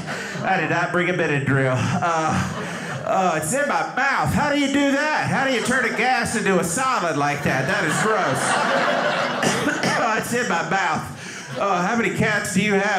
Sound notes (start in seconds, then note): 8.9 audience laughing; 9.2 coughing